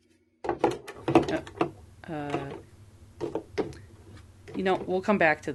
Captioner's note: packaging clunks as struggle continues